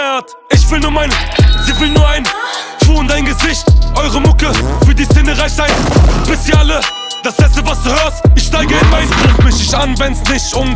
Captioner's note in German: Schuss